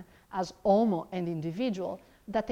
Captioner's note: speaks in foreign language